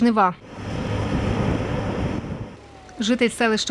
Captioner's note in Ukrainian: Звук двигуна